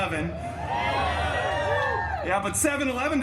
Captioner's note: guests cheering